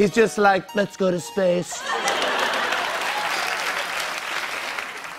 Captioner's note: laughter and applause